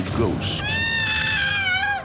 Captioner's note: screams